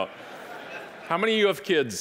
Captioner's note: audience laughing